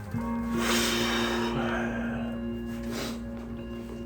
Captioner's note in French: soufflement